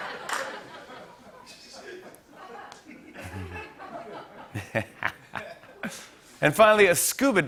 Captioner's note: laughter; chuckling